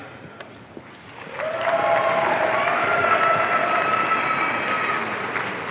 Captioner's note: audience cheering